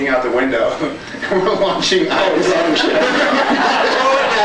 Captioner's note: laughs